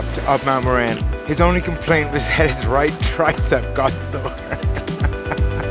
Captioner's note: laughter